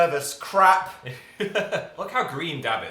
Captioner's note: laughs